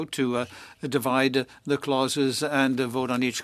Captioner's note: speaking French